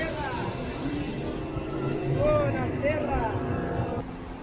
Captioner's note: street voices